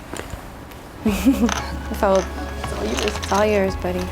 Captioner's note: chuckles; tense music